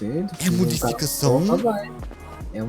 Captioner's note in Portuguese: Sarcasmo